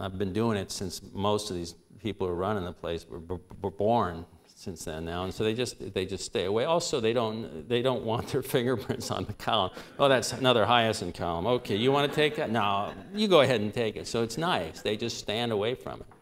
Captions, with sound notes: I've been doing it since most of these people running the place were born. So they just stay away. Also they don't want their [chuckle] fingerprints on the column. "Oh that's another Hiaasen column. Okay. You wanna take that?" "No -- you go ahead and take it." So it's nice. They just stand away from it.